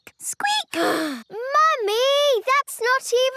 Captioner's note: sighs